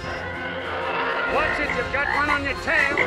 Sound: engines roaring; croaking

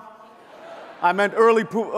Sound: audience laughs

